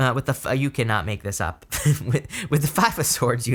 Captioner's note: laughs